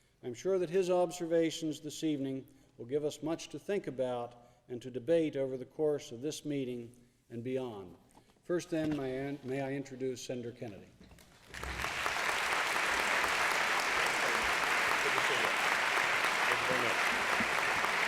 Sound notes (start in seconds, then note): 11.4 applause